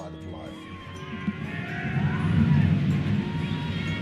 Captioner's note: screaming